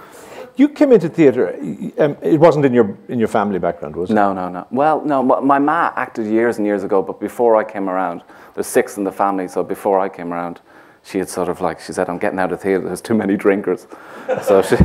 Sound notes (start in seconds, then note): 14.1 laughter